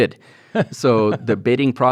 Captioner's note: chuckles